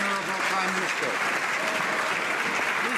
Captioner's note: some Applause